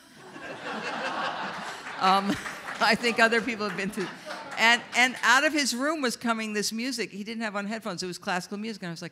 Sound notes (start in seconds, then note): 0.1 audience laughs; 0.6 audience members applaud